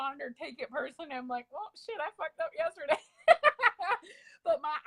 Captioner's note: laughs